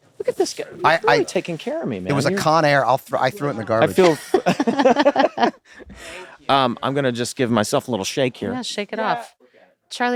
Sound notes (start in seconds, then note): 6.4 laughter